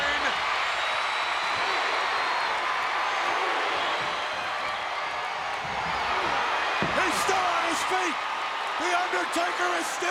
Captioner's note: applause